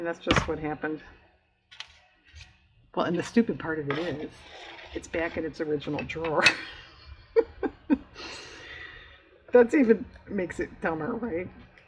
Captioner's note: laughs